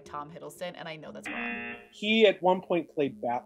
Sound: buzzer rings

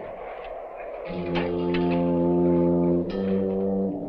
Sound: rattling

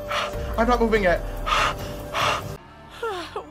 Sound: heavy panting; more heavy panting

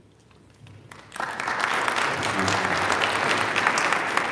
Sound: audience applauding

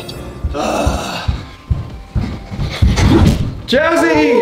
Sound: groaning

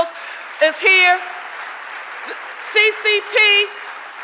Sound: audience applauding

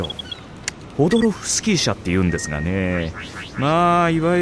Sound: device beeps

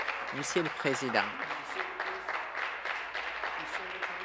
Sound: applause

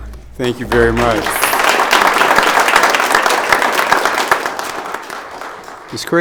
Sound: audience applauding

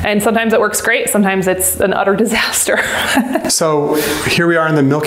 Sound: laughs

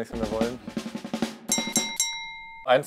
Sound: loud ringing

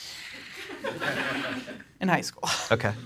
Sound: audience laughs

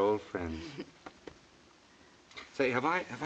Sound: chuckles

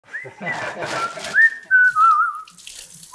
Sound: whistling

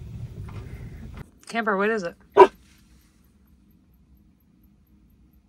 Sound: Camper barking

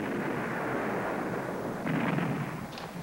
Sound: explosion

